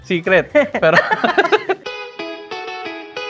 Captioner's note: laughs